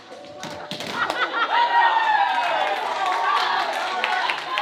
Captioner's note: audience cheering